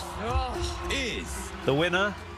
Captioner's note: soundbite of tv show, "the great british bake off"